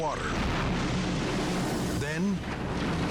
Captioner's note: explodes